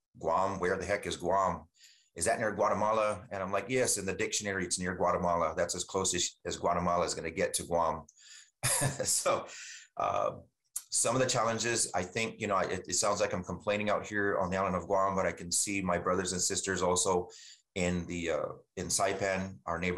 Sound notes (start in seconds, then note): 8.6 chuckles